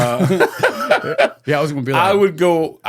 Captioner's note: laughing